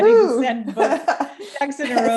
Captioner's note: both laughing